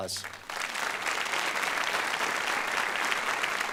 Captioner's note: applause